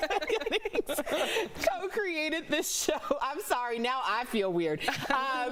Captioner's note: laughter